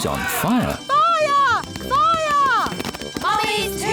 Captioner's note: alarm blares